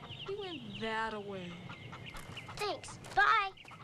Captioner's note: chickens clucking